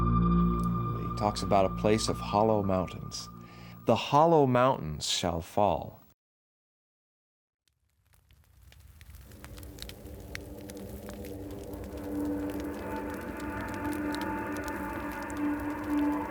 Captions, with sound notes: He talks about a place of hollow mountains. "The hollow mountains shall fall." (fire crackling) (suspenseful music)